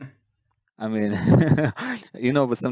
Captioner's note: laughs